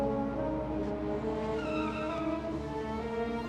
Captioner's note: tires squealing